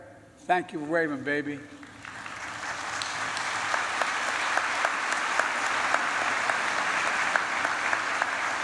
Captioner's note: applause